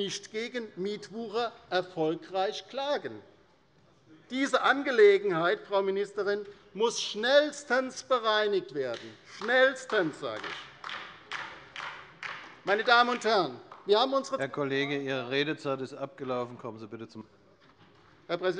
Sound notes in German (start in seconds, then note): 11.0 Beifall bei der LINKEN